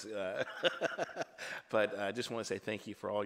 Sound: laughs

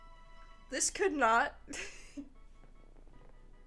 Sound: laughs

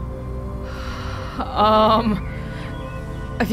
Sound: inhales

